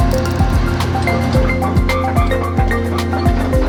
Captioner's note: machine engine noise